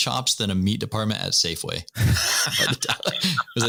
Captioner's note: laughter